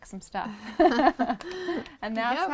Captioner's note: laughter